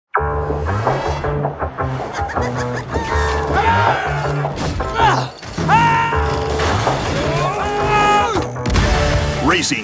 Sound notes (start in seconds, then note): 2.0 laughs; 5.6 screams